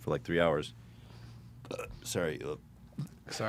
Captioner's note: burps